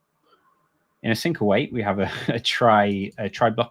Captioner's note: chuckles